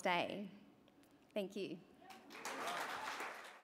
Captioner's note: cheering and applause